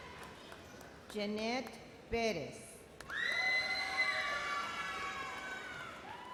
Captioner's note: explosive cheers